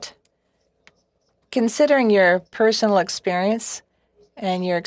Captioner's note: speaking French